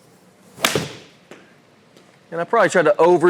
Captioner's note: club thwacks